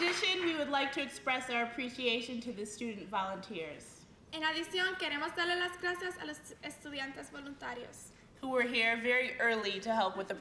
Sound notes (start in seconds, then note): 5.5 speaking in spanish